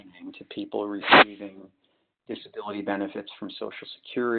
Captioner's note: sliding static